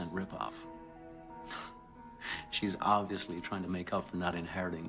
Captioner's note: laughs